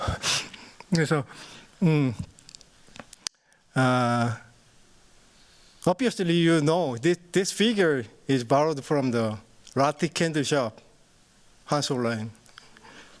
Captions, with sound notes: Obviously this figure is borrowed from the [NON-ENGLISH SPEECH] line.